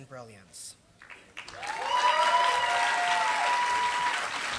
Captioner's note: applause